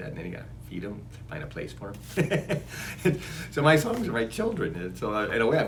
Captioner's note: laughs